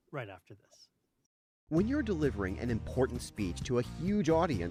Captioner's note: voiceover